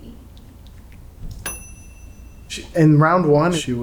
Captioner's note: bell dings